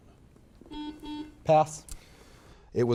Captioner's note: buzzer beeping